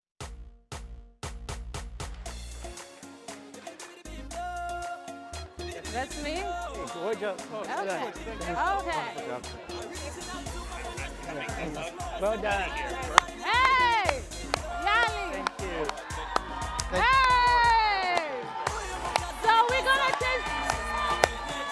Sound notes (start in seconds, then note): 0.3 rap music; 8.0 overlapping chatter; 11.5 crowd murmurs; 17.9 crowd cheers